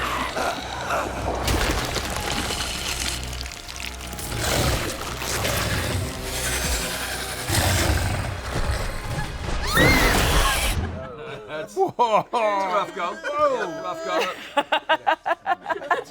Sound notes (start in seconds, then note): 0.0 struggling groans; 0.0 choking; 1.6 harsh scraping; 4.2 growling; 9.5 screams; 15.4 laughs